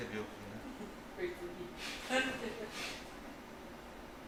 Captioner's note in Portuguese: risos